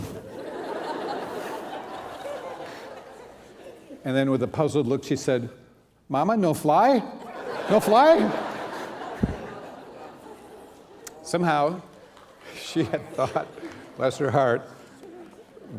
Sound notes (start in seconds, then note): 0.0 laughter; 7.2 laughter